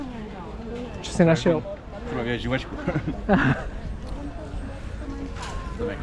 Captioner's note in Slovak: smiech